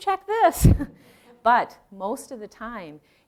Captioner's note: chuckling